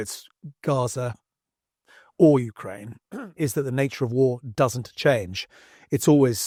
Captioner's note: cough